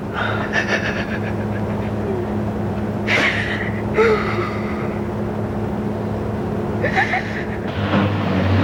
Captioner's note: crying